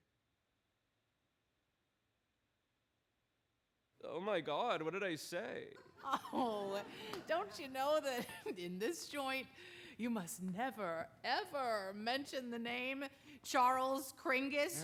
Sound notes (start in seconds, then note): 5.7 chuckles